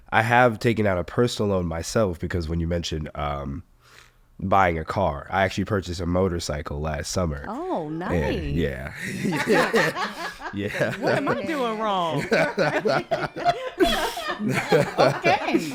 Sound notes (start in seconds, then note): 9.9 laughs; 10.5 all laughing; 13.1 all laughing